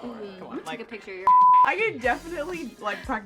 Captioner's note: beep